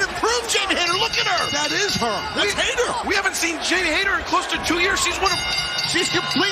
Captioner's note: bell